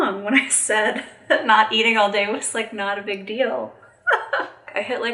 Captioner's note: chuckling